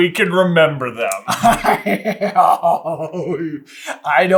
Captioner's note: chuckles and guffaws of uncomfortability